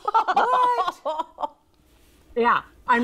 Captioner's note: laughs